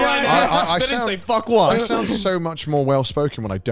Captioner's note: laughs